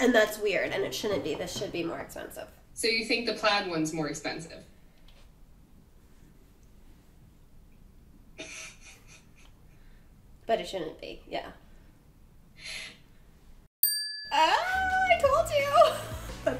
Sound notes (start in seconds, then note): 8.4 producer laughs; 13.8 bell rings